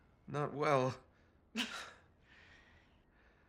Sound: laugh

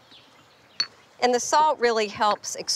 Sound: mortar and pestle clinking

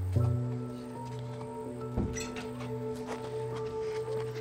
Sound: door opening

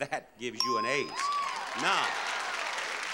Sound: audience applauding

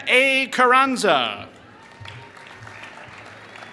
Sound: applause

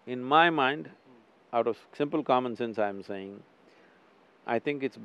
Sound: none

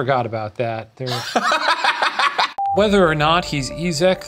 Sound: laughing

